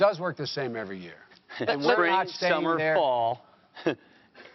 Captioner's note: chuckles